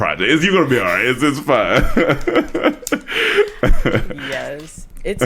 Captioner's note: laughs